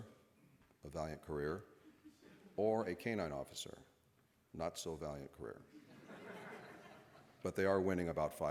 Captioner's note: laughter